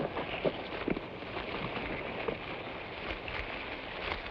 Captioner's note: boots thud